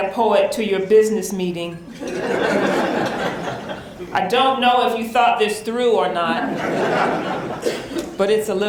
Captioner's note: laughter